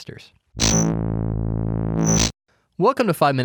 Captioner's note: logo buzzes